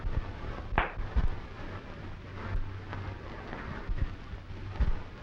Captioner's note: punch cracking